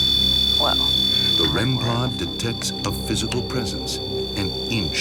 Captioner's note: voiceover